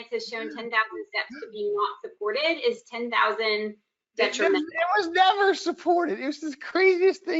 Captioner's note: laughing